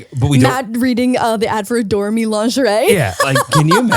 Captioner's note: laughs loudly